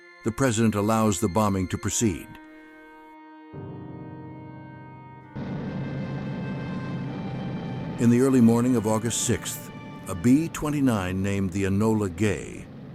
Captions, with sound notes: The president allows the bombing to proceed. [dramatic music] [B-29 taxiing] In the early morning of August 6th, a B-29 named the Enola Gay